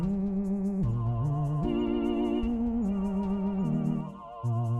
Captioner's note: ghoulish music; cold wind fading out; ghoulish music